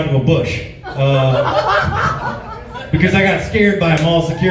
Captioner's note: laughs